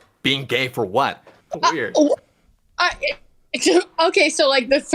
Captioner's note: stuttering